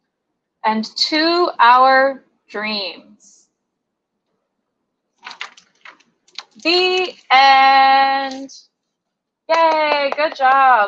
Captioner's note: applause